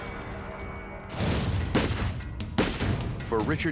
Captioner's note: gun shots